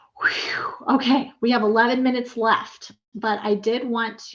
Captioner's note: exhales